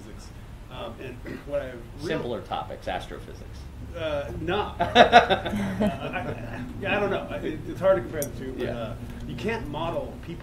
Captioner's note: laughs